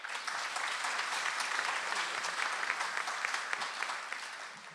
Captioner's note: audience applauds